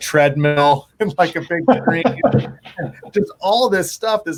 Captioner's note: laughs